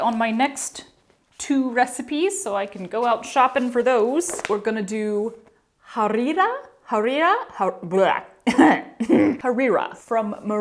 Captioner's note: cough, choke